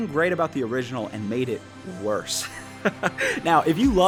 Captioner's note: laughing